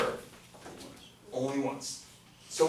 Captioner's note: voiceover